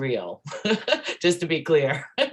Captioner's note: laughs